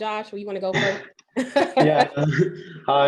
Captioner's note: chuckles